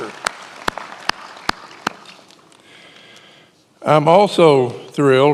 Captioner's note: many applauding